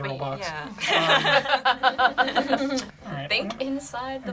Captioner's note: group laughs